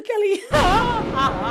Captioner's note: laughs